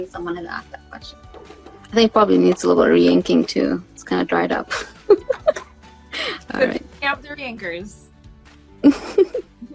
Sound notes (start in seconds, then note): 5.0 laughs